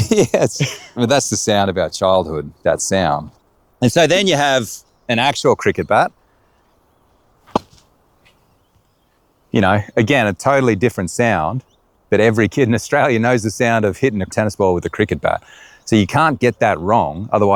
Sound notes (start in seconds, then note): 0.0 laughing; 7.4 ball pounds